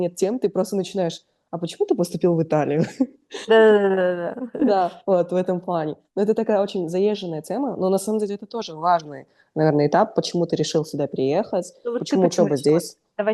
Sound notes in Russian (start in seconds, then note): 2.8 смех